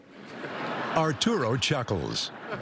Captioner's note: laughter